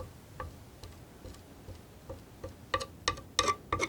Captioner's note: tapping